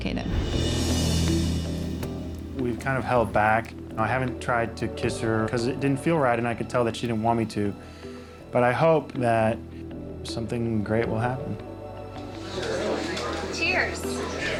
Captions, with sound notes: (suspenseful music) - We've kind of held back, I haven't tried to kiss her, 'cause it didn't feel right and I could tell that she didn't want me to, but I hope that something great will happen. (people chattering) - Cheers.